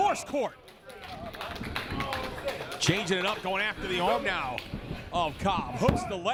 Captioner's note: applause